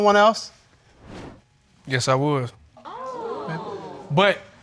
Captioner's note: audience exclaims